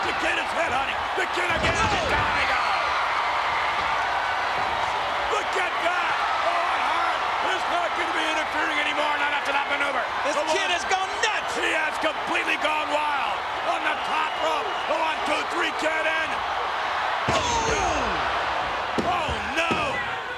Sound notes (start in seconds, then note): 3.3 audience cheers